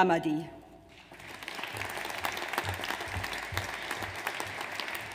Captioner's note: audience applauds